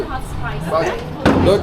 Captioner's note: speaking Turkish